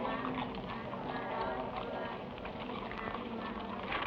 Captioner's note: people praying